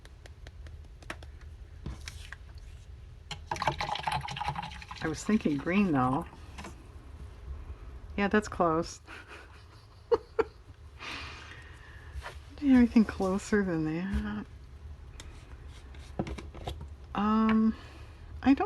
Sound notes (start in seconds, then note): 9.1 laughs